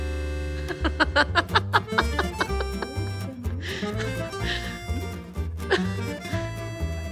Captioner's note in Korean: 웃음